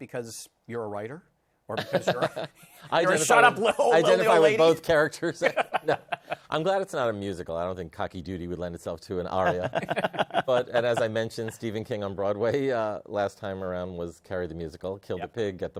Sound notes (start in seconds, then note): 1.8 laughs; 9.4 laughter